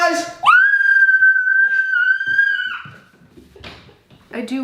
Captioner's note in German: schreit